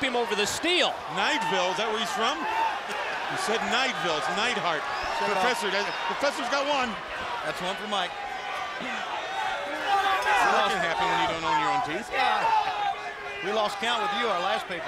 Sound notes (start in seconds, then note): 9.3 crowd cheering